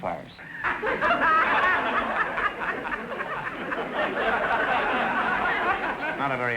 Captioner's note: audience laughter